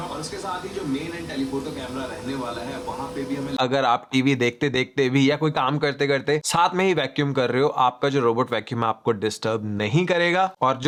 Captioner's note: video playing on TV